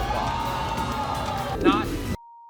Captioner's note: cheering